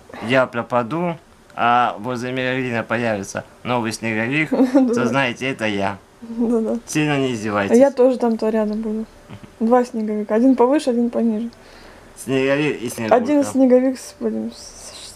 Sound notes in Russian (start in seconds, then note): 4.5 смеётся; 9.3 смеётся